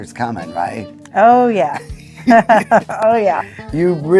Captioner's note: chuckling